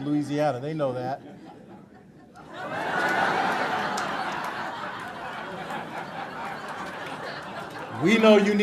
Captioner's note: laughter